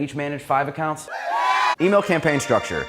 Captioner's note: cheering sound